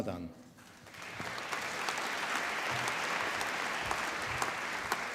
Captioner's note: applause